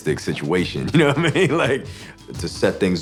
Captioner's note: laughs